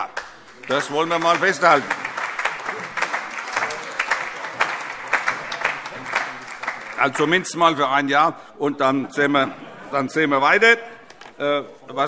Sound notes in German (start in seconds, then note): 2.3 Beifall; 10.9 Heiterkeit